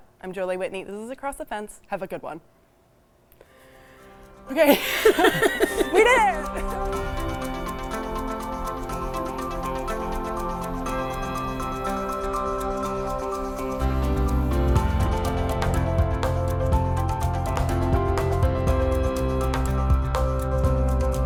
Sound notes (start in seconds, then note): 4.5 laughs; 6.8 upbeat music